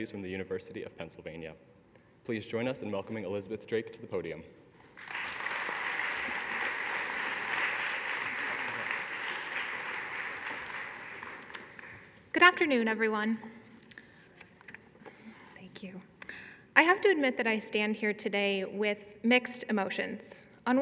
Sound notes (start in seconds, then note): 4.8 audience clapping